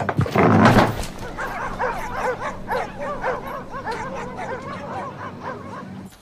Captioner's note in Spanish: Perros ladrando